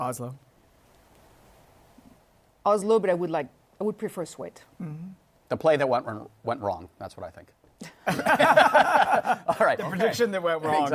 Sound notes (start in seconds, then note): 7.8 laughter